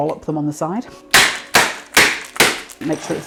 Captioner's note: bang bang bang